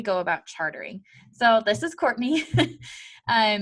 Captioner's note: chuckles